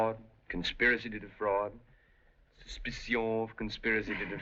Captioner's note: french Accent